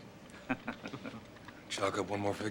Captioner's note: all chuckle